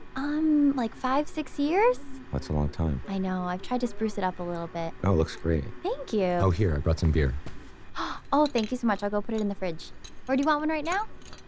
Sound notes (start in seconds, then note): 8.0 αναστεναγμός